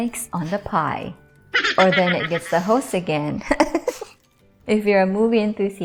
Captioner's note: chipmunk laughing; chuckling